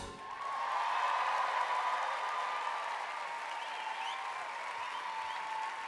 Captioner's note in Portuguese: audience cheering and applauding